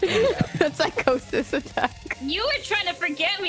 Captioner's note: laughing